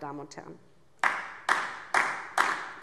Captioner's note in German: Beifall DIE LINKE